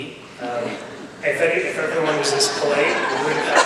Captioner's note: audience laughs